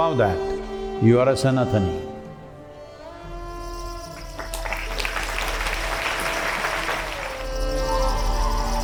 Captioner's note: applause